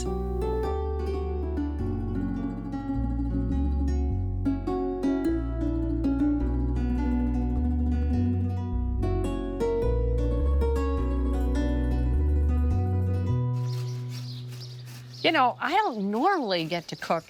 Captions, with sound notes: (gentle acoustic music) (cucumber scraping) (birds chirping) You know, I don't normally get to cook